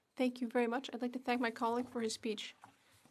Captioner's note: speaking in French